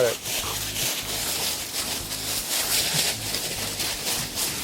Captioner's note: leaves rustling